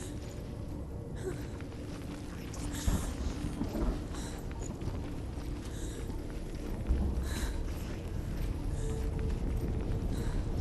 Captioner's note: gasping